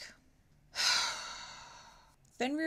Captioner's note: sigh